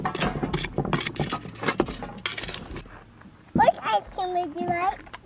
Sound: pot clunking

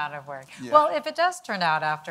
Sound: audience laughing

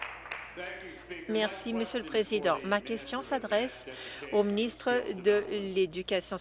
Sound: applause

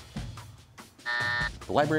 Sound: buzzer sounds

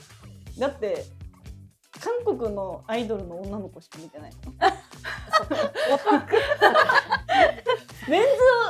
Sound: laughs

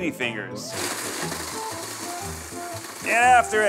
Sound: food processor whirring

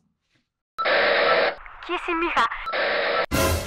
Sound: radio

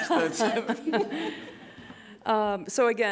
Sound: chuckling

